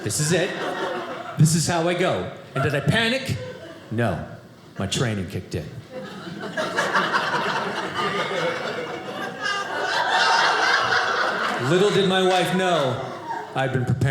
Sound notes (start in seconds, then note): 7.3 audience laughing